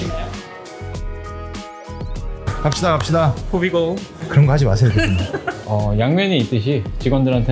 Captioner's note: laughs